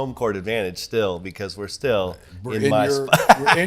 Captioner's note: laughs